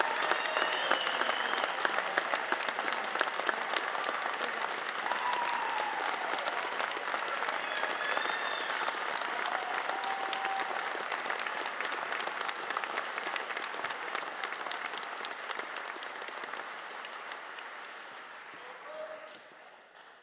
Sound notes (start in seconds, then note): 4.3 cheers and applause